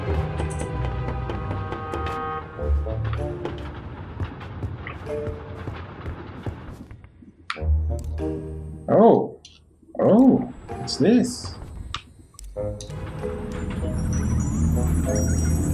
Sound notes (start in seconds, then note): none